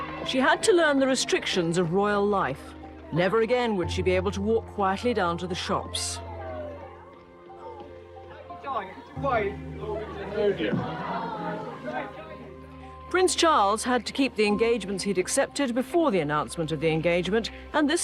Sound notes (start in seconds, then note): 11.1 crowd chattering